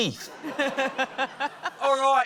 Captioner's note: laughter